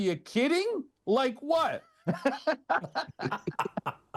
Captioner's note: all laugh